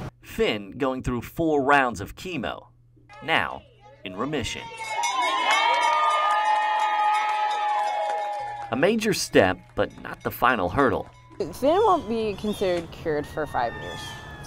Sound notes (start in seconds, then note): 4.4 bell ringing; 4.4 cheering